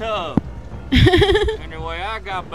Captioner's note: laughter